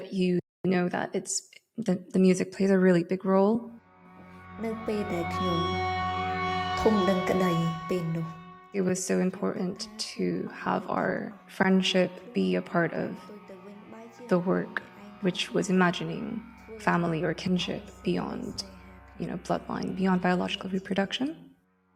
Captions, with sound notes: you know that the music plays a really big role. (character speaks in Khmer) It was so important to have our friendship be a part of the work, which was imagining family or kinship beyond bloodline, beyond biological reproduction.